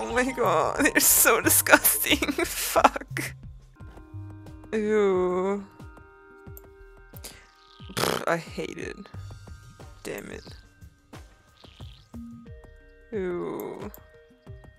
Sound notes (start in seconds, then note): 0.8 giggling; 7.9 blows raspberry